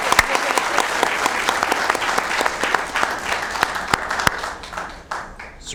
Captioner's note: applause